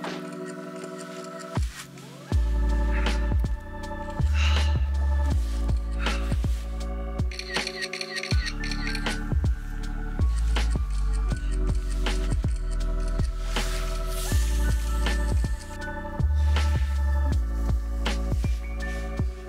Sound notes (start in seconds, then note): 7.3 rapid shutter